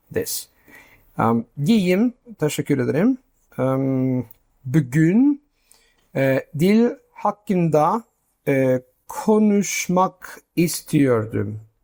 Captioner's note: speaking Turkish